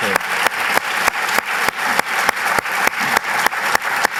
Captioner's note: applause